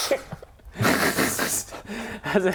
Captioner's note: cracks himself up